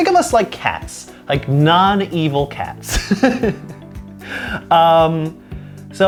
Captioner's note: laughs